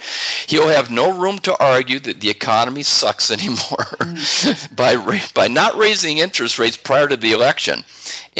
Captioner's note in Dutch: lachen